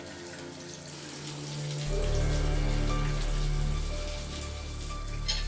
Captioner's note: water splashing